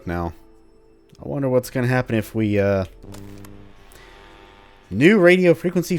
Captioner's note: radio turns on, static